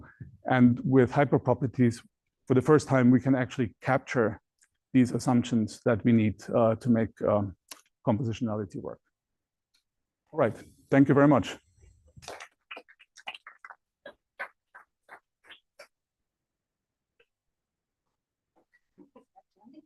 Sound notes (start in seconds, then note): 13.1 applause